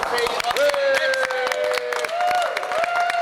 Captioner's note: cheering and applause